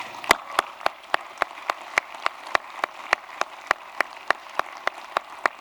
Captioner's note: applause